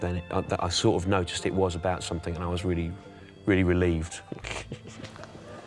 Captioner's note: chuckles